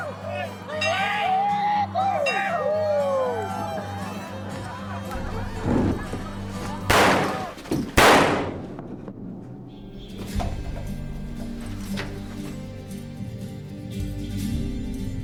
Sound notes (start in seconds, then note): 0.0 lively melodic music; 5.7 guns firing; 8.6 mellow orchestral music